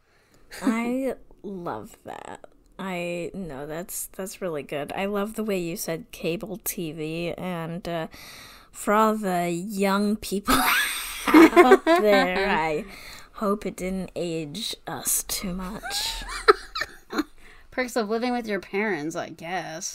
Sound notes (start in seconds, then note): 15.8 laughs